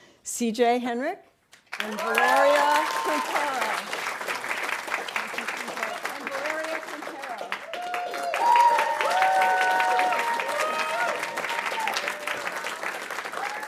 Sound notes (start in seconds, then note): 4.1 audience applauding; 8.5 audience cheering and applauding